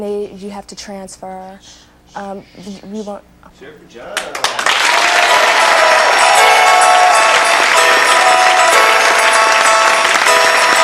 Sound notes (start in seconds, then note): 4.3 audience cheers; 6.2 audience clapping; 8.0 holiday music